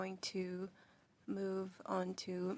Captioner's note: speaking French